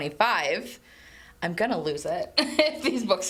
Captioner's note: laughs